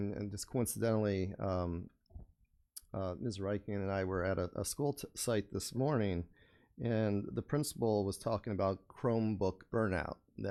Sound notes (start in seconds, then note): none